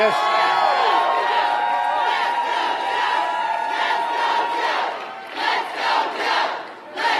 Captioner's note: applause